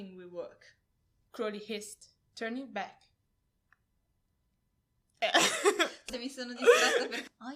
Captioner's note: laughing